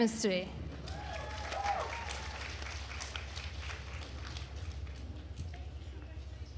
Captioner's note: attendees cheering and applauding